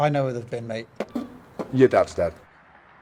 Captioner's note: Tommy smacking lips